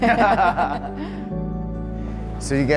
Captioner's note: laugh